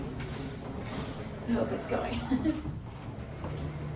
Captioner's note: laughs